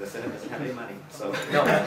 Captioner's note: laughter